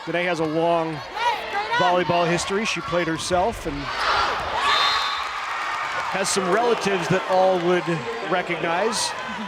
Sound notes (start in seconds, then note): 3.7 crowd cheering loudly